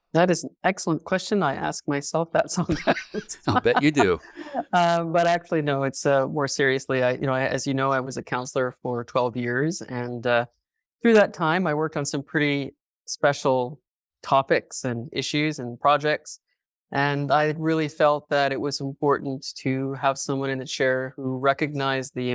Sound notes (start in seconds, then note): 2.7 laughing